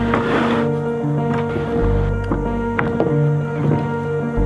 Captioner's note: wood shuffling